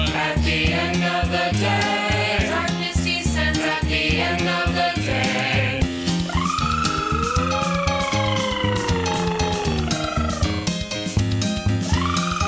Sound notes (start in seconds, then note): 6.2 devils howling